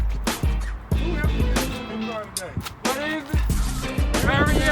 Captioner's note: chattering